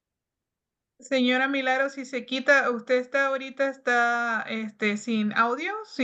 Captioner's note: speaking Spanish